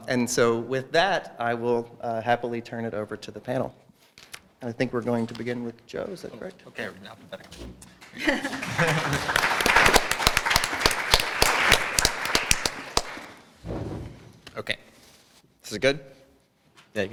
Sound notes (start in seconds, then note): 8.0 applause